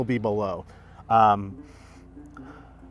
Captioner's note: sniffs